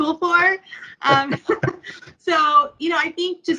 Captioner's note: laughs